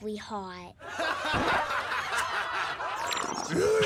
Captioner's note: laughing